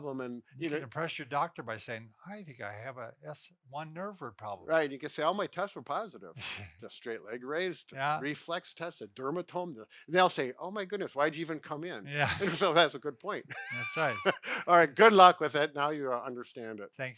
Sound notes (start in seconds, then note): 13.5 chuckles